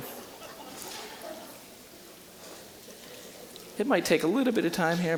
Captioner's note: scattered laughing